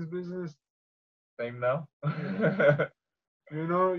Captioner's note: laughs